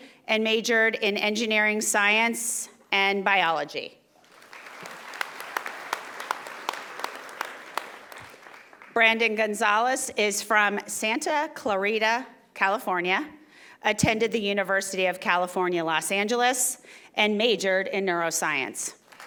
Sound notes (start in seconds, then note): 4.2 audience applauding